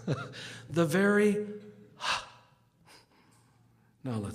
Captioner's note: exhales sharply